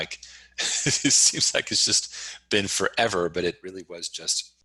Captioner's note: laughs